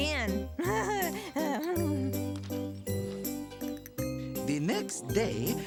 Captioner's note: chuckles nervously